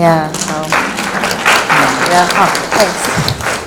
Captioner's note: applause